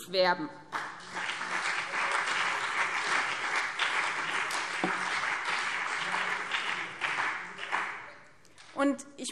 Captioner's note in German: Beifall BÜNDNIS 90/DIE GRÜNEN und CDU